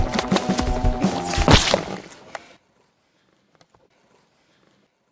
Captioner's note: flesh squishing